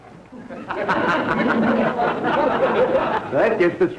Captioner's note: audience laughter